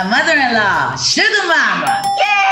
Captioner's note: dings